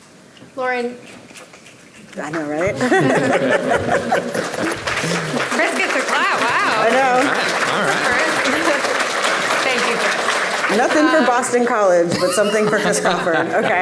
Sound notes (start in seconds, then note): 2.9 laughs; 3.6 audience clapping